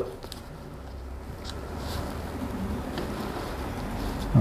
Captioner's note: rubber hose noise